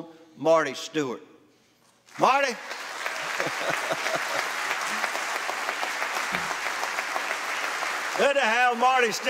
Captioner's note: applause